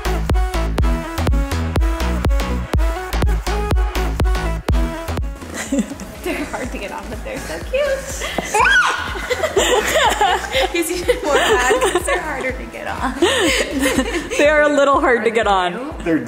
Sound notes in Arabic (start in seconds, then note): 0.0 موسيقى رقص إلكترونية; 5.5 كريستال يضحك; 8.4 تصرخ; 9.6 يضحكان